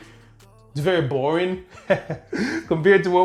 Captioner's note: laughs